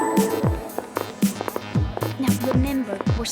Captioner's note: footsteps